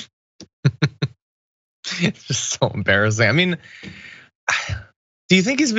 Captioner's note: laugh